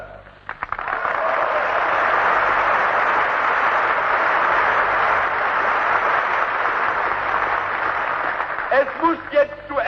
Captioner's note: applause